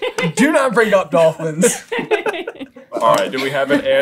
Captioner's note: laughter; laughter